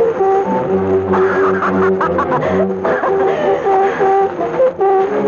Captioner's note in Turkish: Meşum kahkahalar